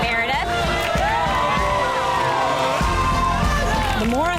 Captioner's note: upbeat music; women cheering